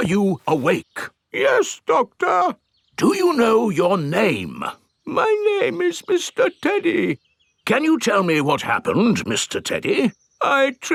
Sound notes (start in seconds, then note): 1.7 in teddy's voice; 3.5 in normal voice; 5.5 in teddy's voice; 8.0 in normal voice